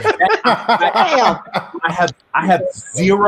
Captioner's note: group laughing loudly